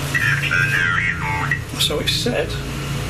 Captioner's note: electronic voice